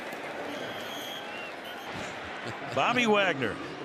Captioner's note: whistles